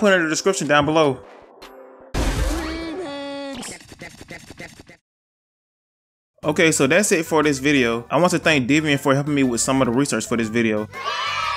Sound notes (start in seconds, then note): 3.6 record Scratching